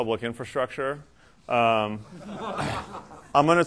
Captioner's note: laughter